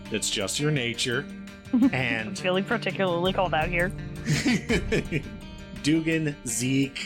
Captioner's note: giggles